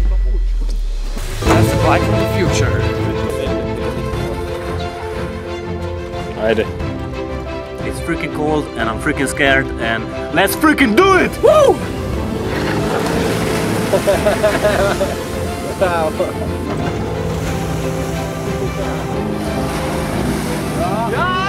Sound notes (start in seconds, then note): 6.3 in Slovenian; 12.2 jet ski engine revving; 13.8 laughter; 16.4 jet ski engine revving; 20.8 laughter and cheering